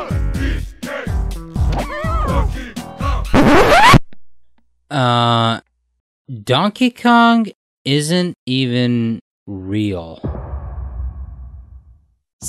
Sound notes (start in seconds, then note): 5.3 record scratch